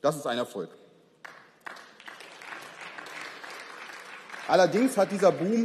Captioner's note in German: Beifall